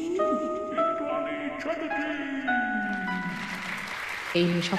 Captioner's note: applause